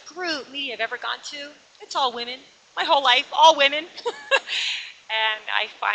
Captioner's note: laughs